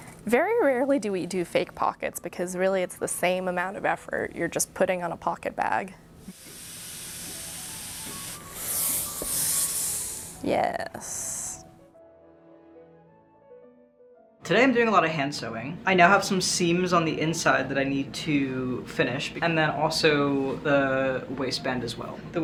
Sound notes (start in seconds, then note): 6.2 iron box hissing; 11.9 bright music